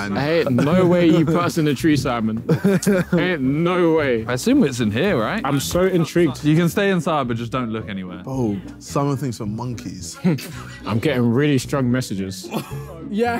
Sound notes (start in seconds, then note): 2.4 laughing